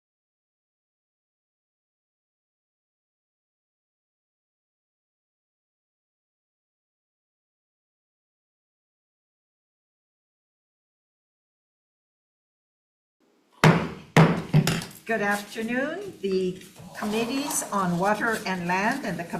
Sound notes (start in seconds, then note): 14.1 gavel taps